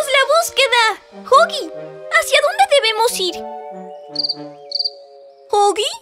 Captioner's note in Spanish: Sonido grillos